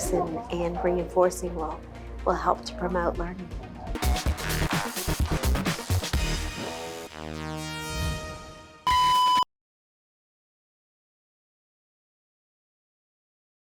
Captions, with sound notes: and reinforcing will help to promote learning. (upbeat music) (electronic beep)